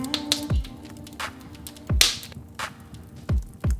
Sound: fire cracks

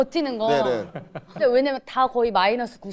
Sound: laughing

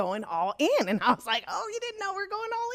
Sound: laughs

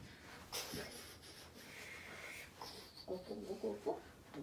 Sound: whooshing

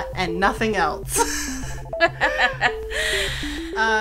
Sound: laughter

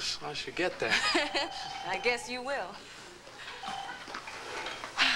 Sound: telephone rings

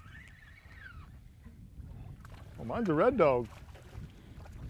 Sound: splashing

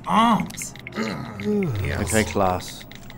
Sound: yawns

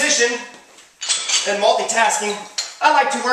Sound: clanking of metals

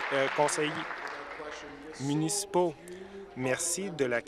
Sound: applause

